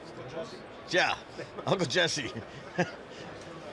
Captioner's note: chuckles